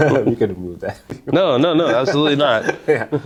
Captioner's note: laughing; chuckles